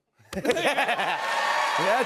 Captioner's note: cheers and applause